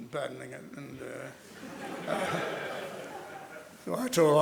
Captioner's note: laughter